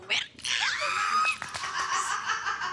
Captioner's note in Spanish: Gritos